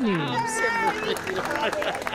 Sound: choking

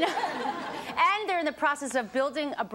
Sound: audience laughs

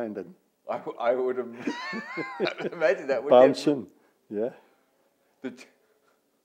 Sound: laughing

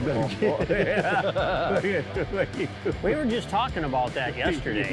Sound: group laughing

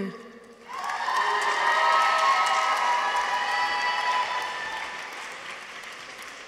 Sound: audience applauds; people cheer

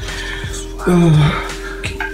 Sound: sigh

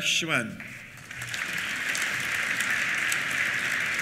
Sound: applause

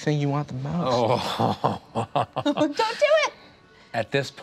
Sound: laughs

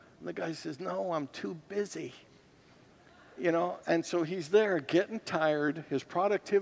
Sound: congregants laugh

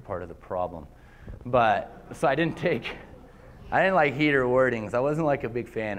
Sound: laughter

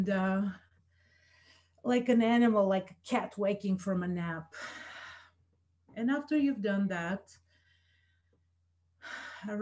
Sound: exhales

